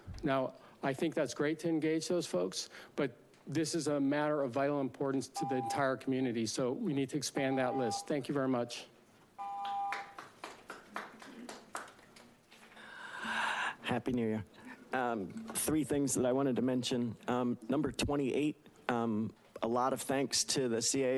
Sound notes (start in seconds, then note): 5.4 beeping; 7.4 beeping; 9.6 attendees applauding